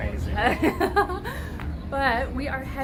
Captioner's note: laughing